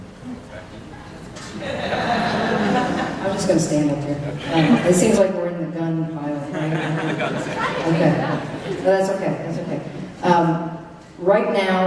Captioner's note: laughter